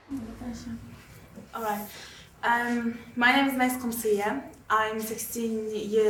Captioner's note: British accent